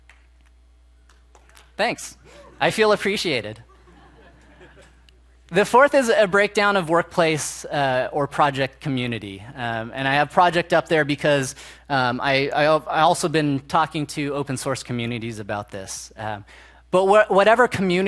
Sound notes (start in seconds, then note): 3.2 applause and cheers; 7.2 laughter